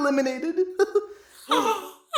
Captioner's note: gasp